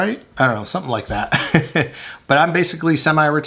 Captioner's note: laughing